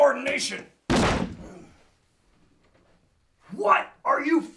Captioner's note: body thudding